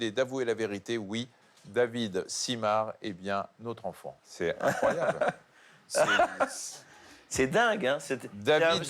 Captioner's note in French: rires